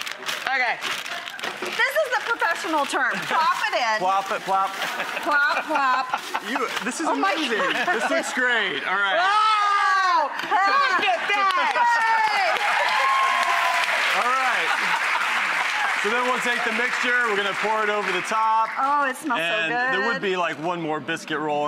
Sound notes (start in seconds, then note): 9.2 excited scream; 13.4 audience laughing and cheering